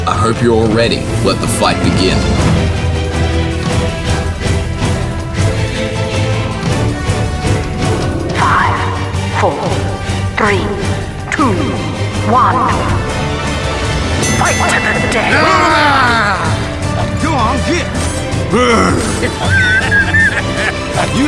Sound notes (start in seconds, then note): 14.7 battle cry; 18.5 disappointed groan; 19.0 laughter